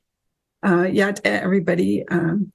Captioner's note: foreign language